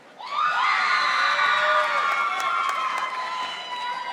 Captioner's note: audience applauding